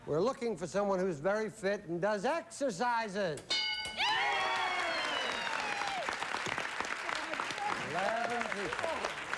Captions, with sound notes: WE'RE LOOKING FOR SOMEONE WHO'S VERY FIT AND DOES EXERCISES! [CHEERING AND APPLAUSE] 11 PEOPLE.